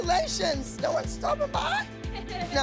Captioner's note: laughter